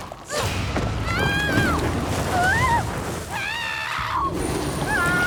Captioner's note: Dr. Bar beau screams; screams